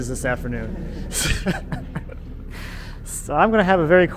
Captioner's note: chuckles